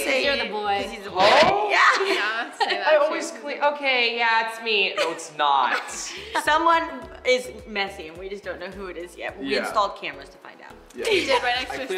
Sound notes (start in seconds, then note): 3.8 imitates high pitched voice; 11.0 laughing